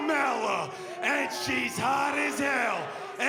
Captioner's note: cheers & boos